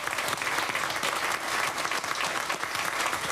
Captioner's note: applause